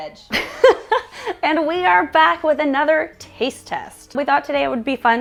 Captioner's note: laughs